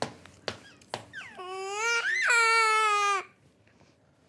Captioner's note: crying